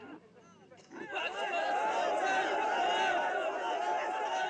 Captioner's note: cheering